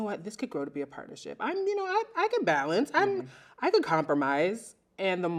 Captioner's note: none